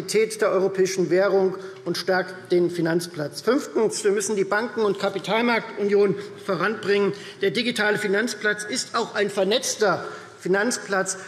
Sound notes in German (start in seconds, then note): none